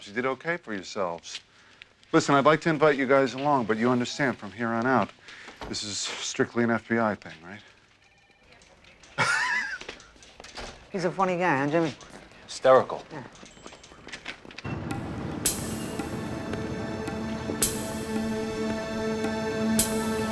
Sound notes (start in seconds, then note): 9.1 laughs; 14.9 suspenseful music